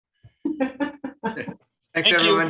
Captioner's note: laughs